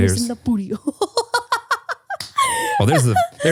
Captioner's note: laughing